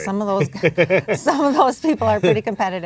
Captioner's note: laughs